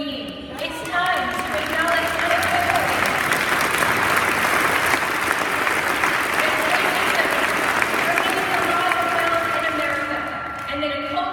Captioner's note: applause